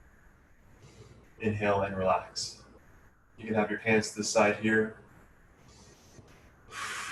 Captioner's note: breathes